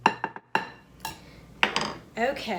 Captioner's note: utensils clattering